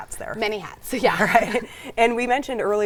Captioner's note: laughs